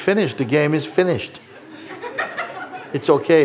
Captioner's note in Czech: smích